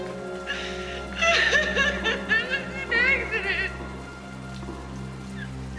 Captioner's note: crying